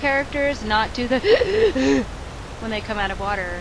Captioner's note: gasping for breath sarcastically